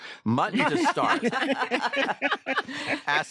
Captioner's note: all laugh